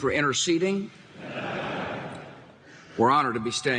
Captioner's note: audience laughing